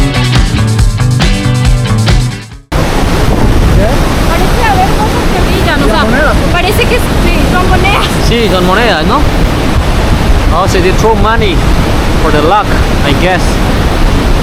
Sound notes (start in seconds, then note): 6.4 Spanish; 8.2 Spanish